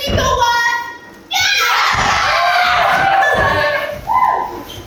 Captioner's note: all agree excitedly